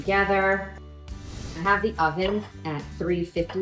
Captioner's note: air whooshes